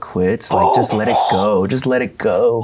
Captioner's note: gasps